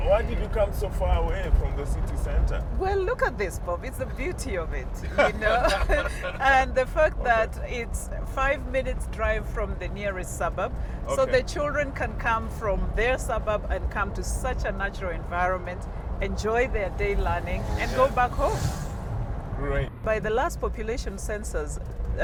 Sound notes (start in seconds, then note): 5.0 both laughing